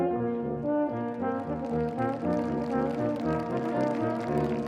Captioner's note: audience applauding